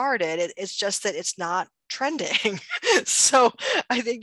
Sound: laughs

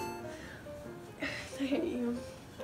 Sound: huffs

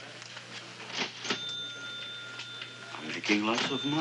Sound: cash register ringing

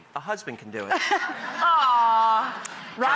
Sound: audience laughing

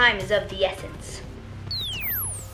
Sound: monitor turns off

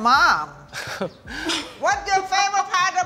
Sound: laughs

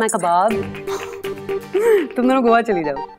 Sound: Cherry scoffs

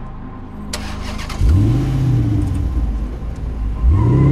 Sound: engine roars

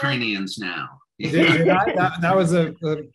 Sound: laughter

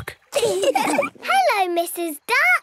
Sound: all laugh

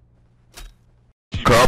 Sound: skin drop sound

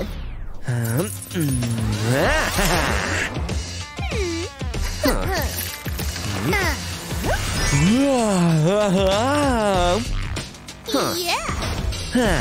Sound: making excited sounds

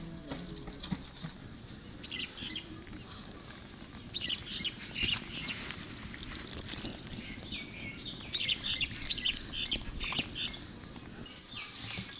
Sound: birds singing

